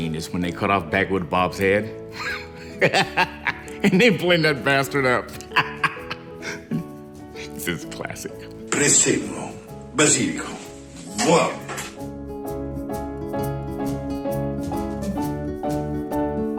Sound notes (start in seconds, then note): 2.1 laughs; 5.3 laughs; 8.6 Claudio speaks Italian